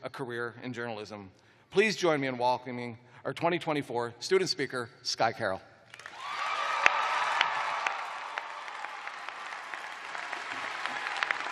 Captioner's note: cheers and applause